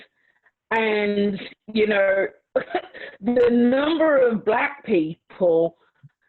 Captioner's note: laughs